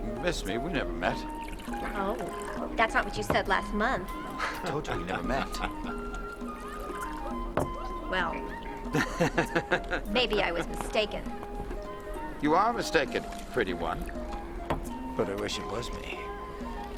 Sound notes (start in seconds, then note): 2.0 wine pouring; 8.2 laughing